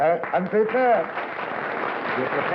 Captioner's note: applause